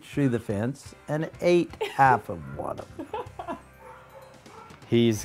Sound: laughter

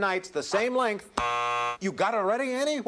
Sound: buzzer

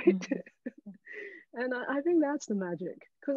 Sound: all laughing

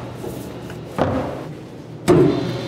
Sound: lid thudding; machine whirring and beeping

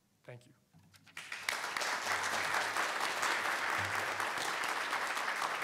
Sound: congregation applauds

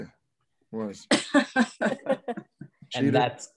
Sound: laughs

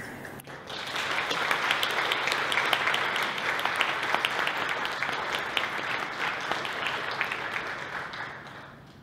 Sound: applause

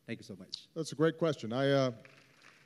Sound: applause

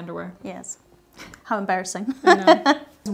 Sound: laughs

